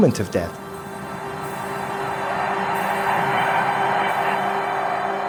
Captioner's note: ambient humming